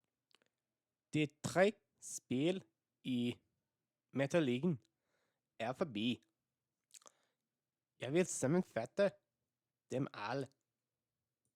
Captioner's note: danish